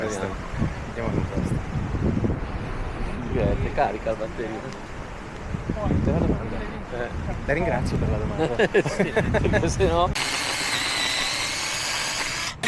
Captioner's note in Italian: risate